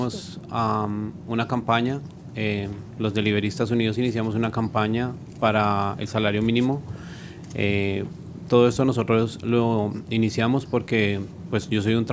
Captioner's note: speaking spanish